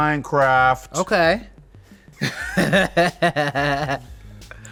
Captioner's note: laughs